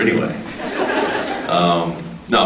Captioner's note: off mic; scattered laughs